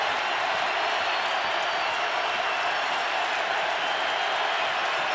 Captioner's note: crowd cheering